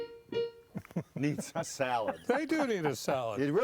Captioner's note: piano tinkling; laughing